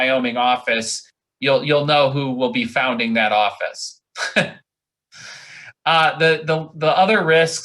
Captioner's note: laughs